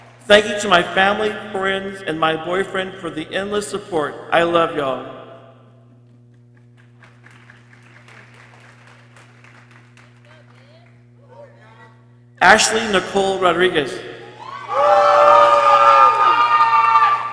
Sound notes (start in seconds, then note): 6.5 people clapping; 14.1 people cheering